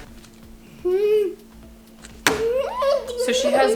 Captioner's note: vocalizes